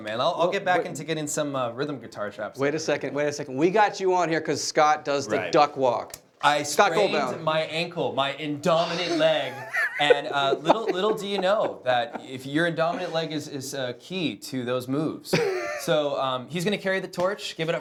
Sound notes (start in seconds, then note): 8.6 laughing